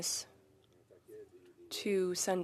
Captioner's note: speaking French